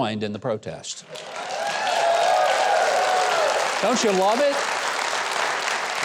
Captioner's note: audience cheering